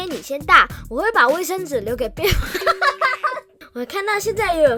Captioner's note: laughs